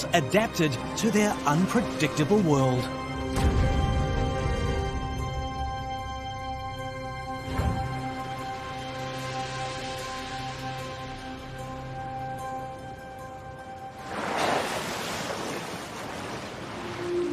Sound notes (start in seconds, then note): 3.4 suspense music; 7.6 waves crashing; 13.9 water splashing